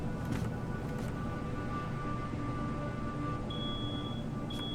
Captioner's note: alarm Bleeping